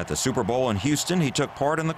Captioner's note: applause